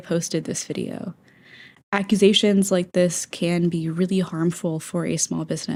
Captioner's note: inhale